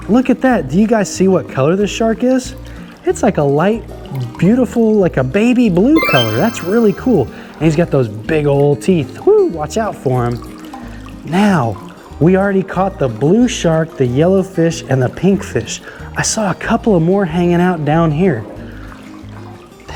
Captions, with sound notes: Look at that. Do you guys see what color this shark is? It's like a light, beautiful, like a baby blue color. (chimes ringing) That's really cool. And he's got those big old teeth. Woo, watch out for him! Now, we already caught the blue shark, the yellow fish, and the pink fish. I saw a couple of more hanging out down here.